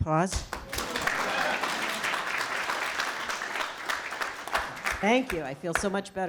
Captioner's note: applause